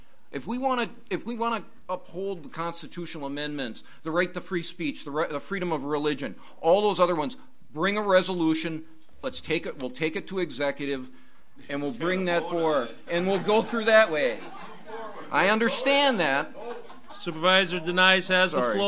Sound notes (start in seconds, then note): 13.0 overlapping chattering; 13.1 audience laughs; 16.0 overlapping chattering